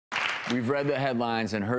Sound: audience applause

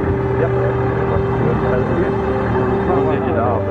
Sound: lively cheerful music; people clamoring

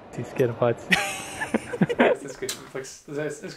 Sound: chuckles

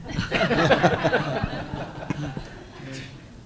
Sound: laughter

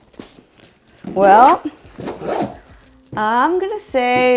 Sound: zipper zips

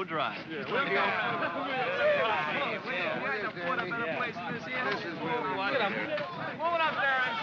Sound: men chatter and grumble

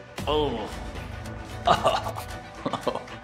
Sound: groans

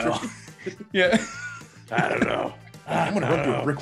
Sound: laugh

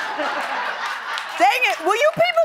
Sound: laughter

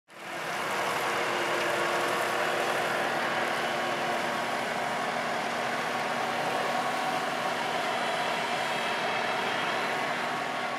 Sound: tractor sounds

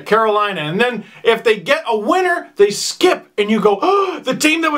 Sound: gasp

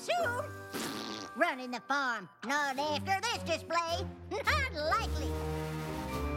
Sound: blows raspberry

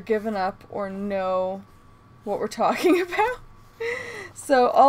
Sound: laughing

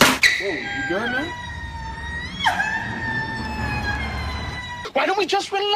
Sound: sob-screeching

